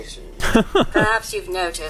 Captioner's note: chuckle